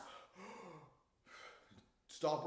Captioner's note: gasps